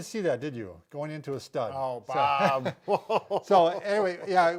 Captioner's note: laughs